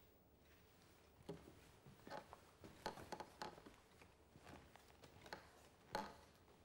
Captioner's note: wood creaking